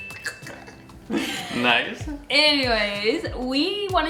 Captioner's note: laughing